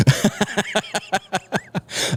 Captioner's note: laughter